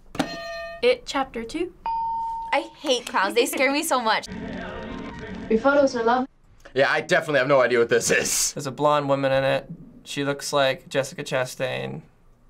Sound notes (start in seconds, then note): 0.2 hitting bell; 1.8 ding